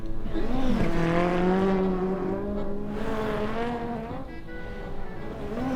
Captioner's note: zoom zoom sounds